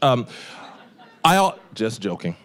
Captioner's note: audience laughing